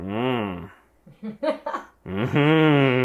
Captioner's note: laughing